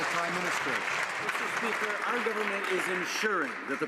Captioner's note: some Applause